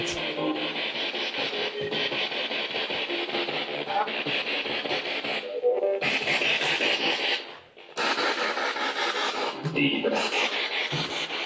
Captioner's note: radio noise from the spirit box